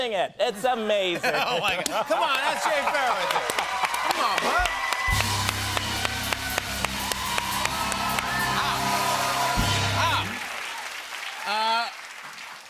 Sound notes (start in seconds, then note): 4.8 cheers and applause